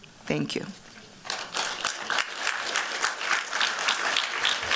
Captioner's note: applause